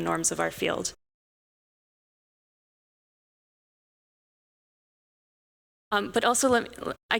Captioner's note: audio out